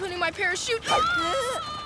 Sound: screaming

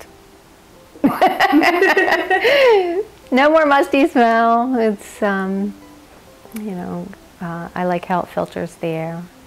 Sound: laughs

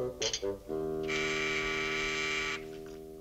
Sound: doorbell buzzes

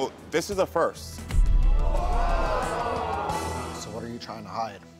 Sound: audience gasping

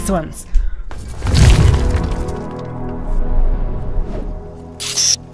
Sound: distorted sound playing

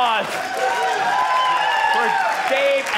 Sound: audience cheering

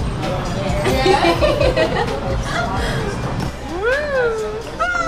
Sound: laughing

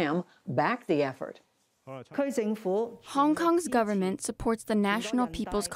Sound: through translator

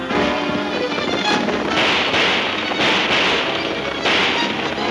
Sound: guns firing

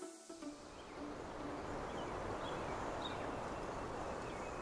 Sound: upbeat music; birds chirping

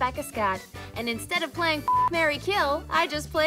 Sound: beep

